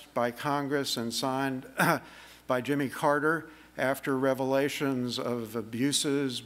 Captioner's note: cough